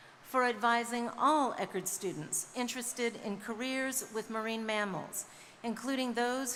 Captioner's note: none